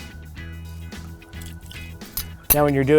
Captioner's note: liquid pouring